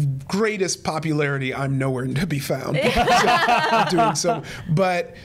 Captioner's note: all laughing